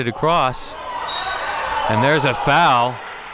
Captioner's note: whistle blows